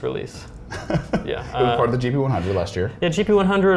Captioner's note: laughs